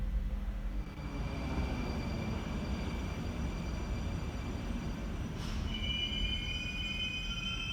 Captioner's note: arrival of train at the station